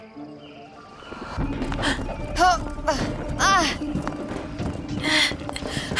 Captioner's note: both grunting; grunting